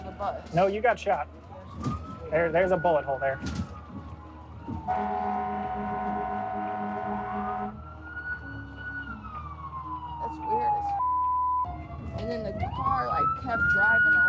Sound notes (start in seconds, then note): 4.8 horn; 6.0 siren